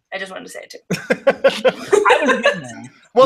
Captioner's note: laughs